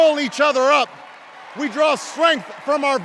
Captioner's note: enduring cheers and applause while obama continues